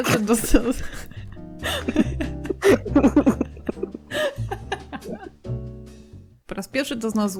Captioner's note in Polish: śmiech